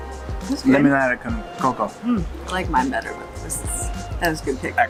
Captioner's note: speaks in foreign language